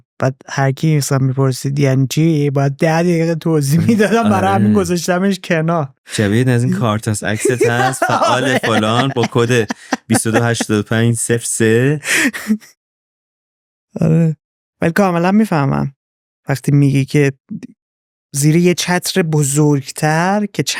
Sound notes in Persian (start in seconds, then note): 11.9 خنده